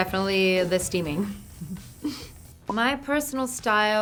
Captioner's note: laughing